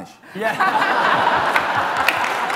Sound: laughter; applause

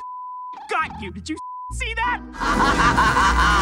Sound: beep; Alastor laughs

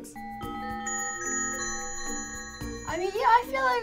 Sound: bells tinkling

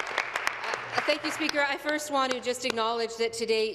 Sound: applause

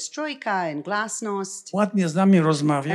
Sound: foreign language

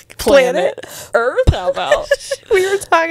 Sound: laughs

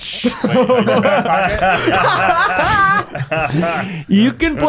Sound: laughing

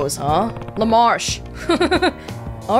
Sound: chuckles

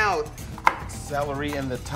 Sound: chopping celery

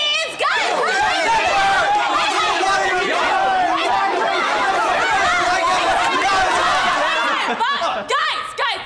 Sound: everyone yelling

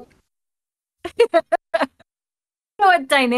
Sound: laughing

